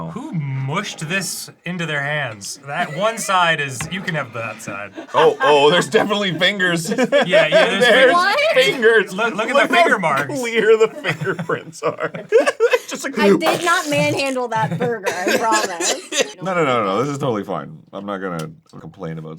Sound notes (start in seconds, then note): 13.4 squishing sounds